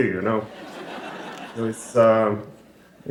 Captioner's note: laughter